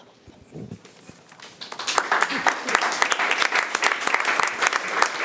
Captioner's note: audience applauding